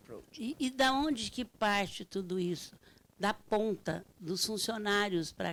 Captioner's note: speaking Portuguese